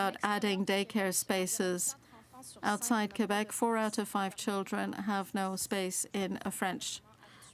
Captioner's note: speaking french